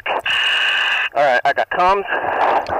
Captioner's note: breathing heavily